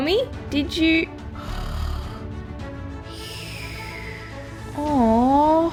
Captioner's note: snoring